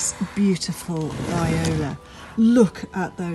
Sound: pot dragging

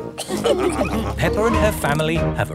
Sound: all laughing

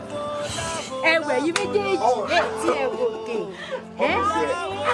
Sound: woman speaking in foreign language; both laughing

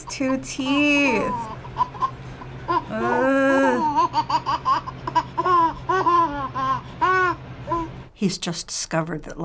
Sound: baby laughing

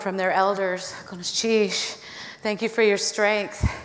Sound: foreign speaking

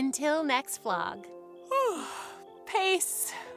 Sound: yawns

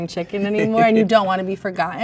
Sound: man laughs

